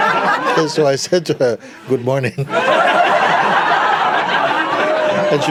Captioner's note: laughter; laughter